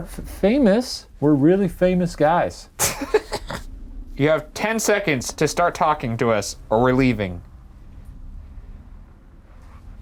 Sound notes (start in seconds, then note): 2.8 laughing